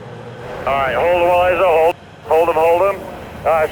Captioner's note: man Over Radio